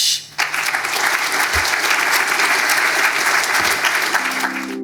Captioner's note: attendees applauding